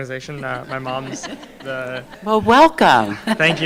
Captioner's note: audience laughing